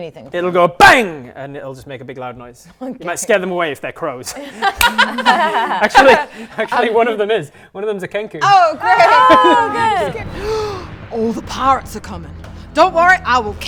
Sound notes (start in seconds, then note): 4.7 clap; 10.3 gasp